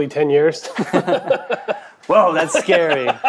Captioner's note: men laughing